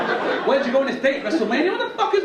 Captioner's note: audience laugh